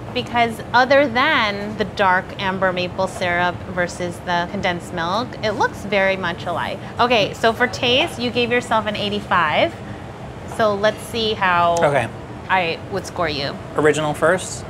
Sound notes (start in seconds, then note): none